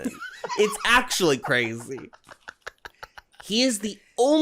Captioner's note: giggles